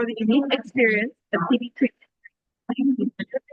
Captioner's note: audio distorts